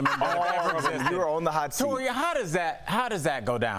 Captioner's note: laughter